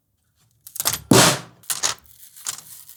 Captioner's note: clack; snare drum